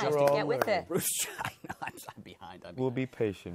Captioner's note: chuckling